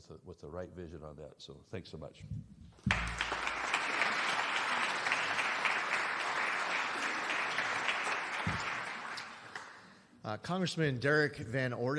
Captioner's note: applause